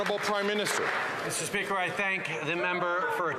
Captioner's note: some Applause